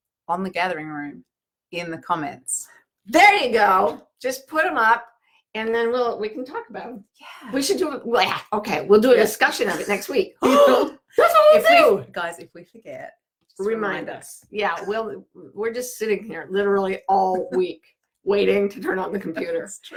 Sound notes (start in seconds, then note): 10.6 gasping; 17.6 laughing